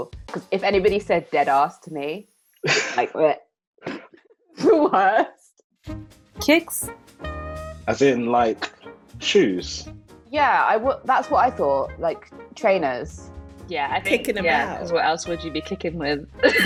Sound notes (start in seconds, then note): 3.9 laughing; 6.6 voiceover